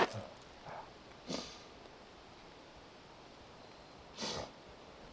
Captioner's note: wind